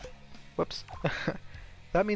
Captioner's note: nervous chuckling